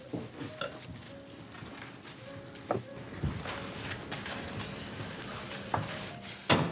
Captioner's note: footsteps